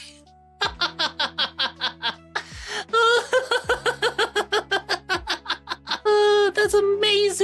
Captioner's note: laughing